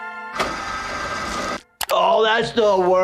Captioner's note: machine whirring